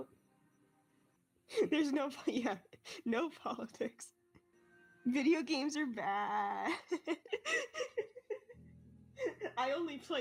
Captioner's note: laughing